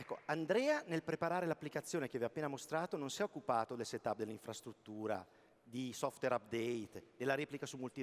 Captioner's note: speaking italian